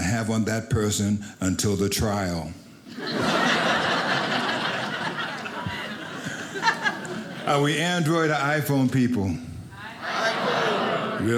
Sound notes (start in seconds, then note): 2.9 audience laughing